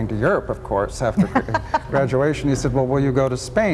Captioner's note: laughs